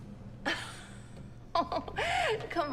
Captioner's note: Elaine laughs